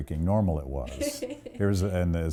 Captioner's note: laughs